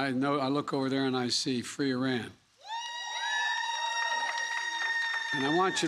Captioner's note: applause